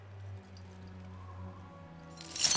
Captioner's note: loud clank